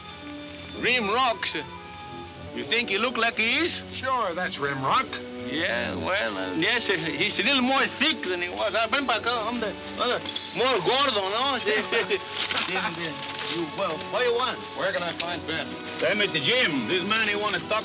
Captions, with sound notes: Rimrocks...you think he looks like he is? - Sure, that's Rimrock. - Yeah, well, I'm guessing he was a little more big than he was. (speaking Spanish) More gordo, eh? (chuckling) What you want? - Where can I find Benton? - Benton, Jim, this man he wanna talk'ed with you.